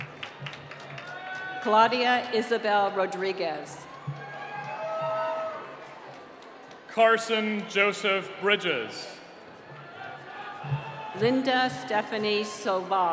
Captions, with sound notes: (applause) - Claudia Isabelle Rodriguez. (cheering) - Carson Joseph Bridges. (cheering) - Linda Stephanie Soval.